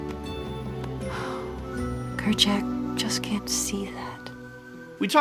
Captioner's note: sighs